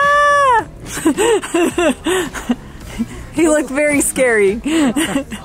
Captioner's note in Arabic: يضحك